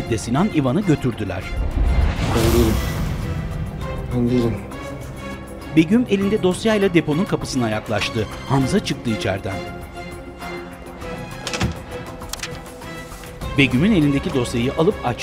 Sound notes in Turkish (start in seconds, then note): 5.2 Müzik - Gerilim; 11.2 Kapı kapanma sesi; 12.7 Müzik - Gerilim